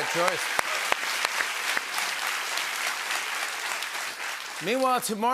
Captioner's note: applause